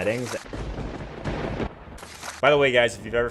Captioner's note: lightning strike